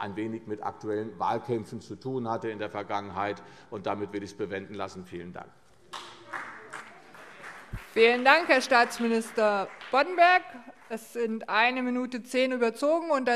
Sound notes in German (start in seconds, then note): 5.9 Beifall CDU und BÜNDNIS 90/DIE GRÜNEN